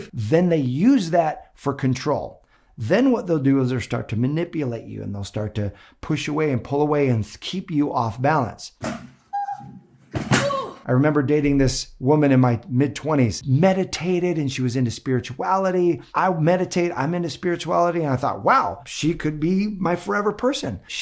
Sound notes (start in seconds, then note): 10.4 screams